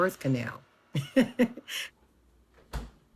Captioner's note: laughs